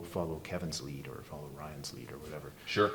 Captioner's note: none